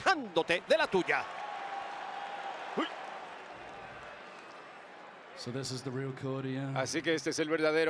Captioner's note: applause